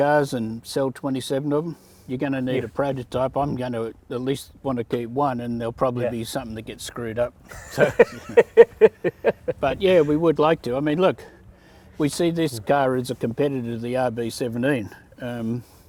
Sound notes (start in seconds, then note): 7.5 laughs